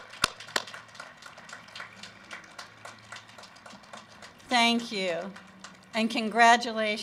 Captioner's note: applause